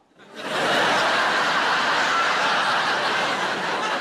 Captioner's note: audience laughing